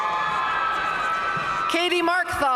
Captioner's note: audience cheering and applauding